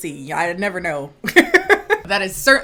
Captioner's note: laughing